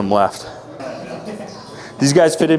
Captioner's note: laughing